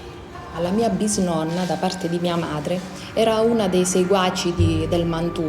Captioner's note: speaks in foreign language